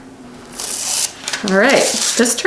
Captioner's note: paper ripping